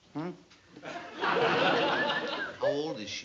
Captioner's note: laughter